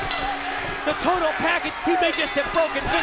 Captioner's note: bell ringing